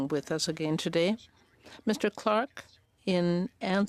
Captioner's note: speaking French